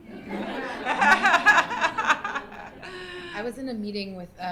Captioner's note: laughter